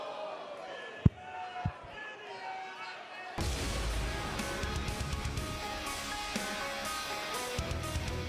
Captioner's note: crowd chatter